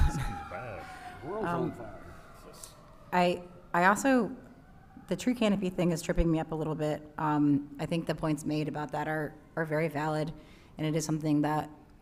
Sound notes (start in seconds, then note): 5.8 sirens in background